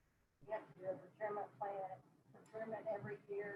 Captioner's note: murmurs